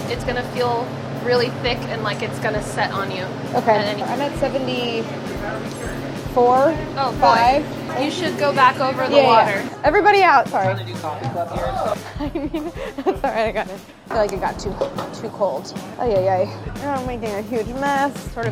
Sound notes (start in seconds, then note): 11.8 laughing